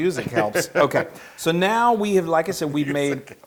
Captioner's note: laugh; laugh